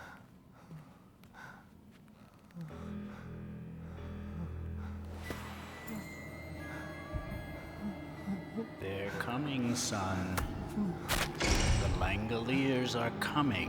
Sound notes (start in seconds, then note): 1.9 whimpers Softly; 7.2 continues Whimpering